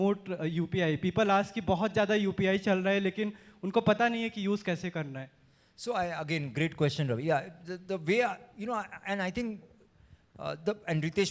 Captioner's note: talks in hindi